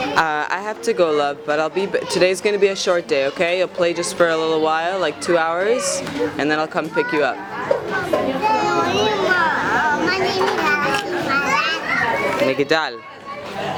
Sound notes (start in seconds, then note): none